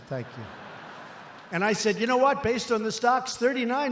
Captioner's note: laughter